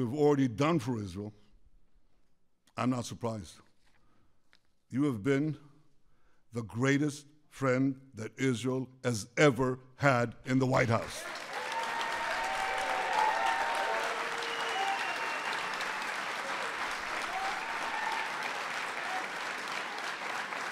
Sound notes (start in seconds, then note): 11.0 applause